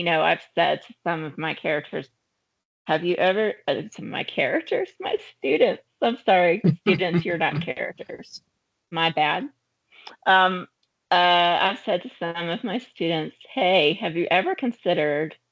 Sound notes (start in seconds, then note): 6.6 chuckling